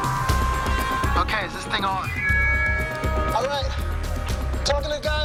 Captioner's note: feedback squeals